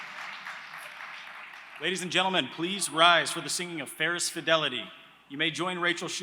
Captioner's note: applause